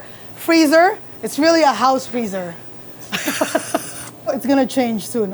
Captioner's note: laughs